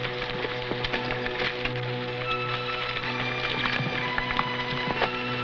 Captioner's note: horse hooves pattering